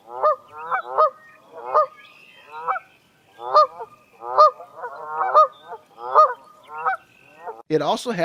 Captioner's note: Canada goose sound